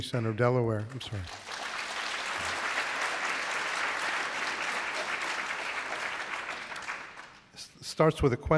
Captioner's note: applause